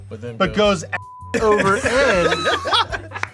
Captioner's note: beep